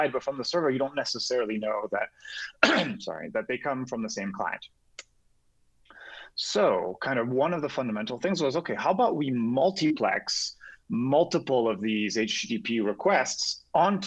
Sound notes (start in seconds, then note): 2.4 coughing